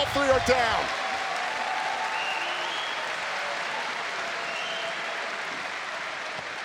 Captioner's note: audience cheers and applauds